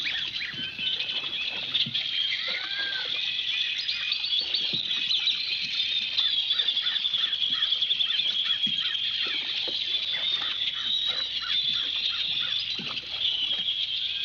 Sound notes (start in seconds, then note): 3.0 birds chirping